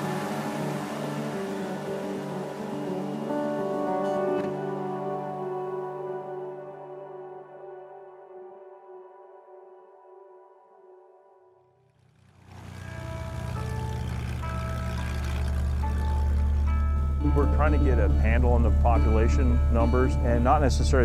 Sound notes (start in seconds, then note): 14.3 plane engine roars